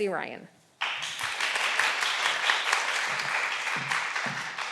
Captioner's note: all applauding